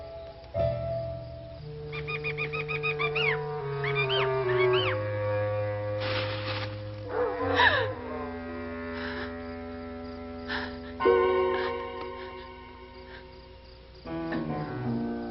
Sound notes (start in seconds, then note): 1.9 bird cawing; 5.7 leaves rustling; 7.5 Priscilla gasps